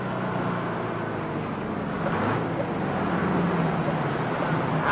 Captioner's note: engine whirring